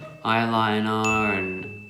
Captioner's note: dinging